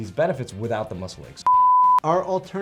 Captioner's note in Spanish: suena un pitido